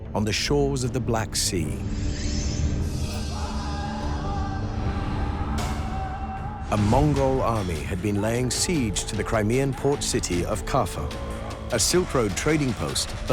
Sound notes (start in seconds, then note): 3.2 hollering